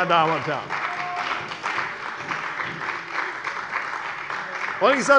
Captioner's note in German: Beifall bei der CDU und dem BÜNDNIS 90/DIE GRÜNEN